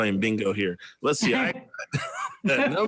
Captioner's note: laughs